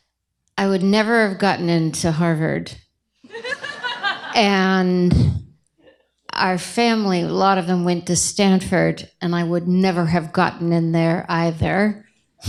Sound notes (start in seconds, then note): 3.2 laughter